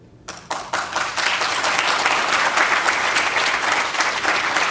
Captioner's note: audience applauding